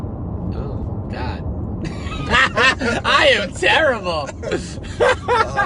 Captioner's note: laughs